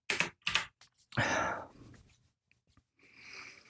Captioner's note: pause